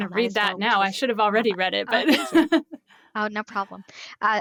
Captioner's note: laughs